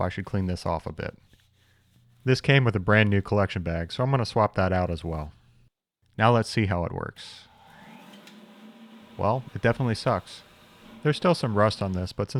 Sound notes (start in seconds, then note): 7.4 vacuum whirring